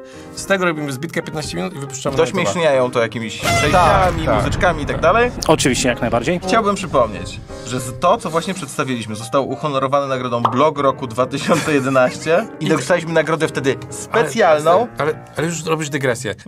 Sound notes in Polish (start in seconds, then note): 11.4 śmiech